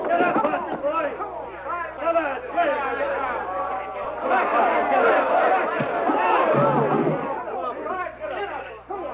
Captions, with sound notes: Get up Boston boy. Come on. [cheering]